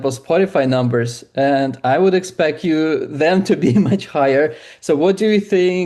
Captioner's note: chuckles